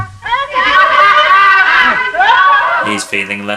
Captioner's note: all laughing